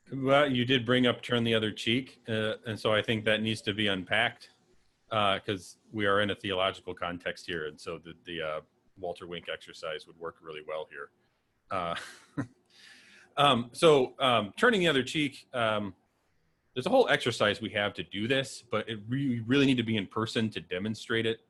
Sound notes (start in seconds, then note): 11.7 chuckles